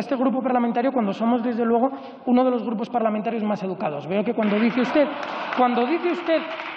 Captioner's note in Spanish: Rumores.-Aplausos